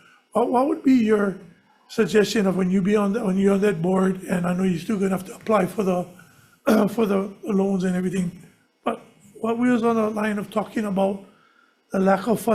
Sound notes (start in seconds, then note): 6.6 clears throat